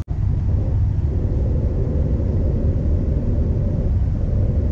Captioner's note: engine whirring